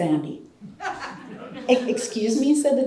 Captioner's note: audience laughter